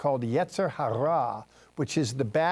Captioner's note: Hebrew words